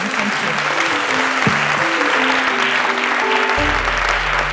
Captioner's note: applause